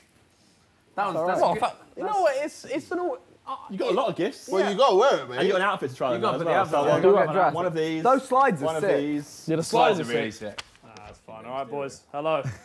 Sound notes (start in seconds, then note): 6.0 group chattering